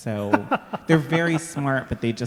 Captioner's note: laughing